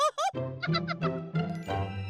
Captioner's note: giggles